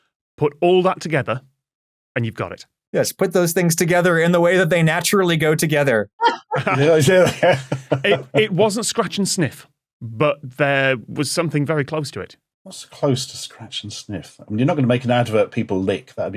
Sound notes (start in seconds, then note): 6.2 group laughing